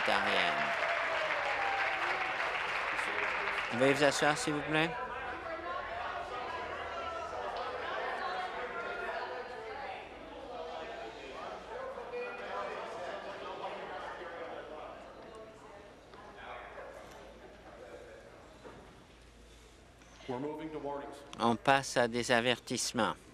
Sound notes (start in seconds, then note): 1.8 applause; 10.6 conversation din